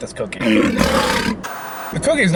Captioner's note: growling